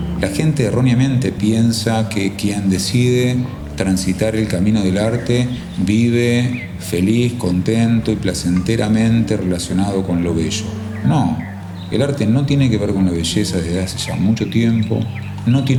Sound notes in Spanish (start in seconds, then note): 10.2 canto de pájaros